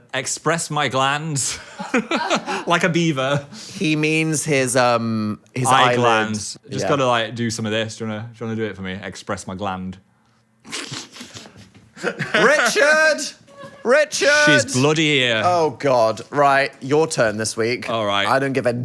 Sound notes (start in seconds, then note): 1.5 Phil laughing; 12.0 Phil laughing